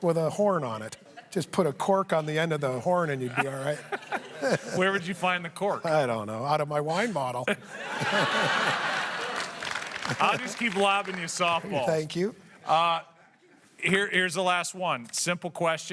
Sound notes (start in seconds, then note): 9.1 laughter